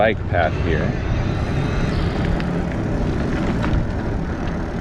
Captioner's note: wheels whirring